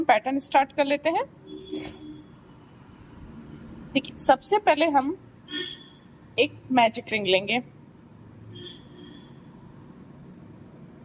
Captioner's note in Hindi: नाक से की जाने वाली आवाज़